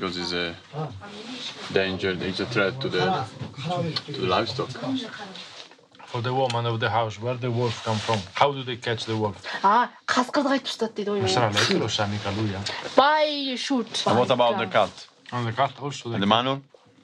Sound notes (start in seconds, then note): 9.7 man speaks in Mongolian; 9.7 woman speaks in Mongolian